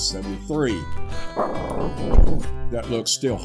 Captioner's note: angry chihuahua growls